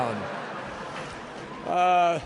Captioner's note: laughter